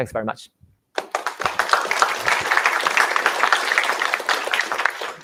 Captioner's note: applause